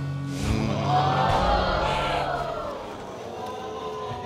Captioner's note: all exclaiming